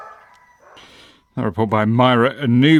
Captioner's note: dog barks